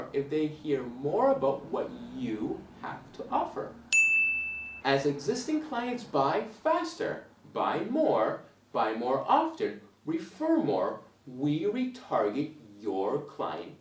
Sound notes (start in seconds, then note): 3.9 bell rings